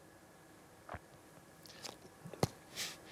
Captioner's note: gulps